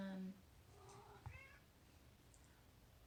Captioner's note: cat meow